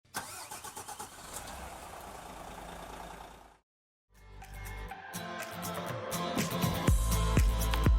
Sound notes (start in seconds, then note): 0.1 car engine starting; 4.2 bright music